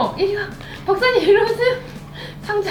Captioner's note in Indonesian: tertawa